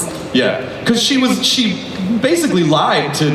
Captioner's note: voiceover